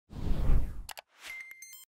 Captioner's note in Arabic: صوت الشعار